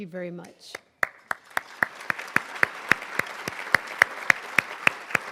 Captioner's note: crowd applauding